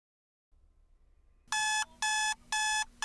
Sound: alarm clock buzzing

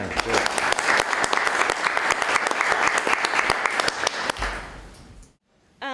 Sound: applause

